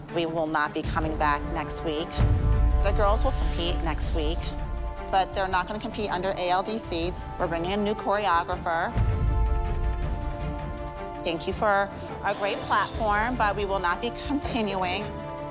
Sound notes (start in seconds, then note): none